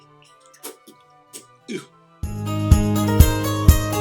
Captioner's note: spitting sounds